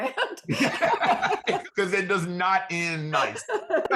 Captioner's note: both laughing